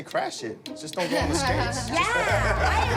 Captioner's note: laughter